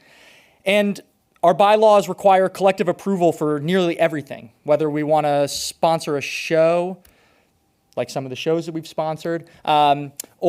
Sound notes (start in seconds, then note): none